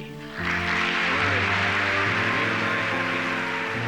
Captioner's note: applause